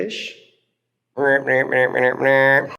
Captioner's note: vocalizing playfully